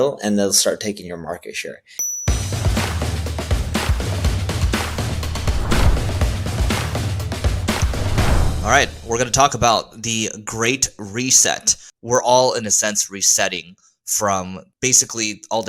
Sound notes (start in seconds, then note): 3.5 upbeat music; 4.7 air whooshes